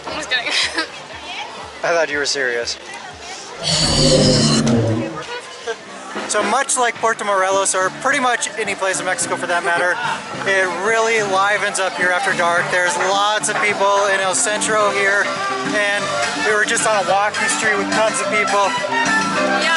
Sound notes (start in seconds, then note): 3.6 breathing fire